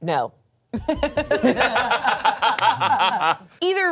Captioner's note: everyone laughs